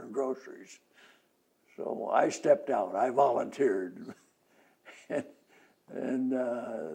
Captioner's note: laughs